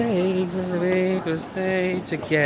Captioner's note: humming